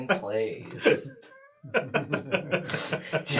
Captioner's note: all laugh